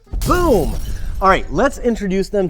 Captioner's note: glass shattering